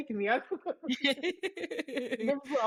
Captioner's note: laughing